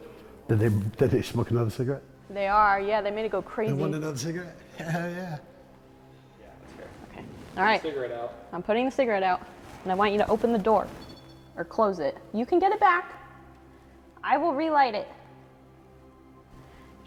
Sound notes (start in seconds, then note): 11.2 REM pod beeping